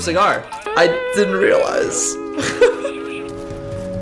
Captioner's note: nervous laugh